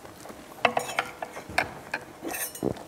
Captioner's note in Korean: 숟가락 놓는 소리